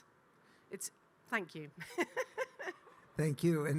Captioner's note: laughing